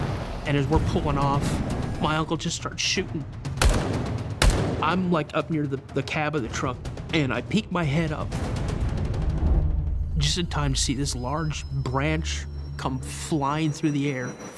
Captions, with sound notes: And as we're pulling off, my uncle just starts shooting. [gunshots] I'm like up near the-the cab of the truck and I peeked my head up. Just in time to see this large branch come flying through the air.